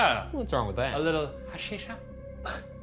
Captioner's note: laughs; eerie music